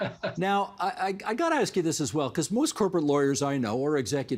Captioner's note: laughter